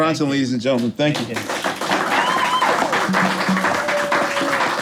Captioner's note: people clapping